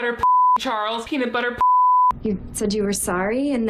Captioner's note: beeps